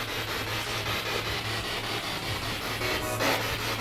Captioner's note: radio noise from the spirit box